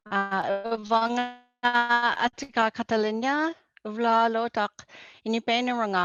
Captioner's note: speaking in foreign language